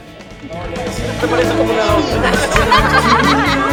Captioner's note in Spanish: risas